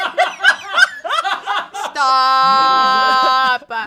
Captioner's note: off-camera laughing loudly